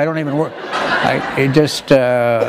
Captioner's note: laughter